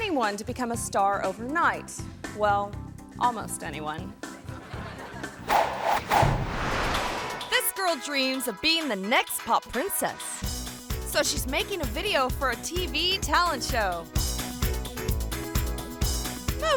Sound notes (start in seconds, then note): 4.5 audience laughs; 5.5 graphic flutters; 14.4 jolly music